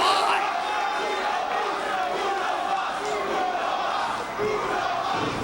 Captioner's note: audience chanting